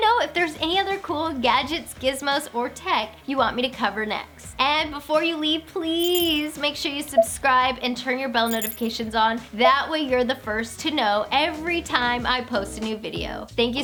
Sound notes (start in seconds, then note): 7.1 electronic beeping